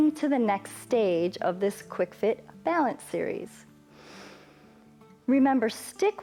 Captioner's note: inhales